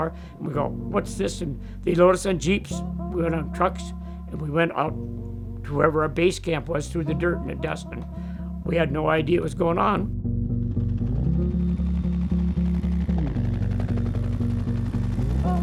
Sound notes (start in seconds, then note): 11.4 chopper blades humming